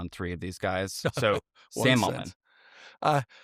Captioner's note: chuckles